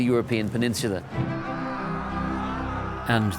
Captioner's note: distant yelling